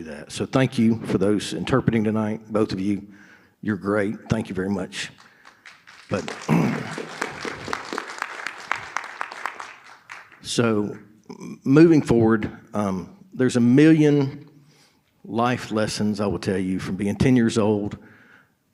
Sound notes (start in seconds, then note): 5.2 audience applauding; 6.4 clears throat